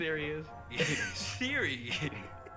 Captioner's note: chuckles